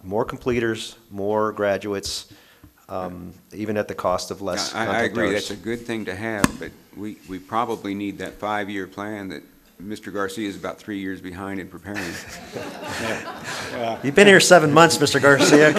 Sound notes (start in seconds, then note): 11.9 audience laughing